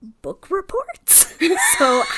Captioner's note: laughs